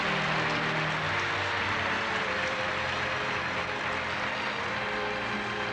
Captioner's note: applause